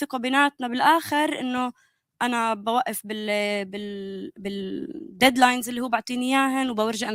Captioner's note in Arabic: لغة أجنبية